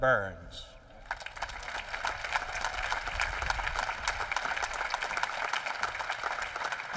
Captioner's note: applause